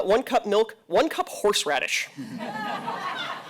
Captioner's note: laughter